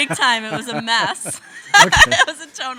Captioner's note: laughing